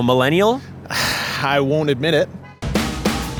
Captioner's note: sighs